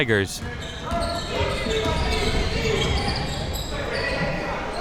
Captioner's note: coaches yelling